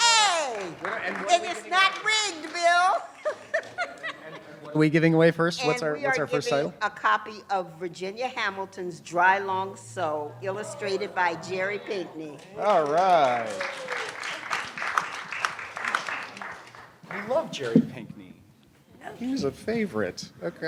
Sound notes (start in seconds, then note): 2.8 laughs; 12.4 applause